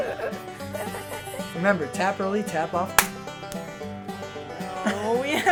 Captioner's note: hands slapping